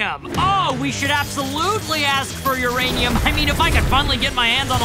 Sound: none

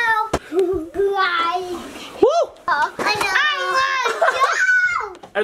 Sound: inaudible yelling

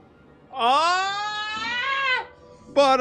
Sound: wail of pure anguish

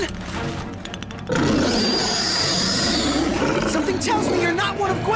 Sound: roaring

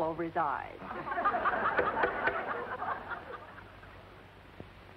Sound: laughter

